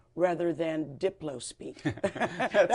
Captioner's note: laughter